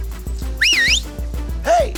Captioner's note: whistles